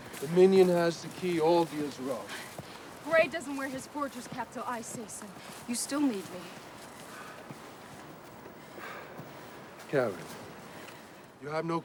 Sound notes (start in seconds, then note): 8.9 Lukas sighs